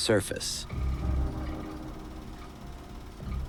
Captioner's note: film reel clicking